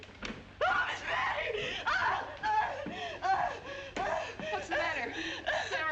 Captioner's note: sara shrieks and pants